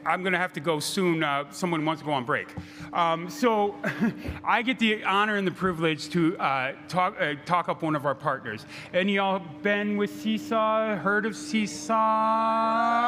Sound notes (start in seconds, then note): 3.7 laughing; 12.9 crowd cheering